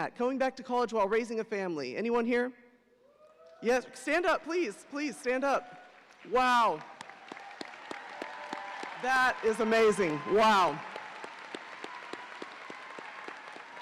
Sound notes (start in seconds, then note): 6.2 audience cheering